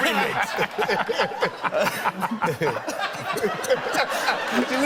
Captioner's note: laughter